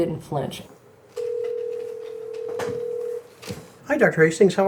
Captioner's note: phone line ringing